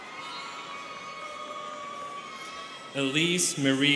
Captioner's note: students cheering